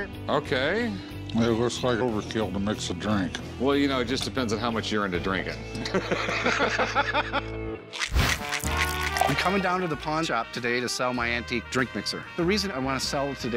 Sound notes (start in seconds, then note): 5.7 laughter